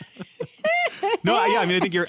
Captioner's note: laughter